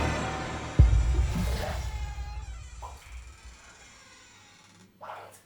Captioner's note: banging violently on door; dramatic music; door creaking